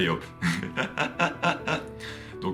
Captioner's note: laughs